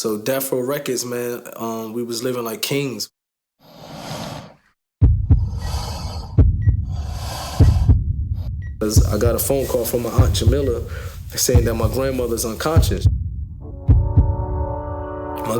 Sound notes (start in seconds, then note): 3.8 swooshing; 5.0 heart beating